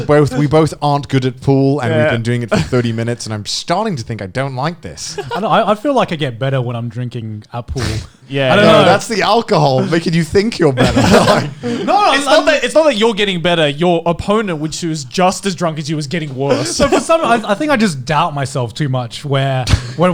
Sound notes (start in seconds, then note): 10.7 all laughing